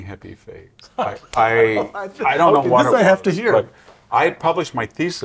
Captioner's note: laugh